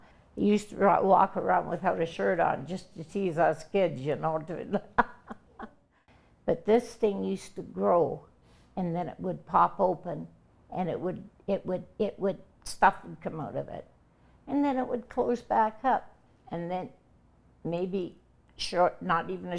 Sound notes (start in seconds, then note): 4.8 laughter